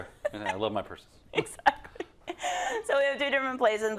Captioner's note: laugh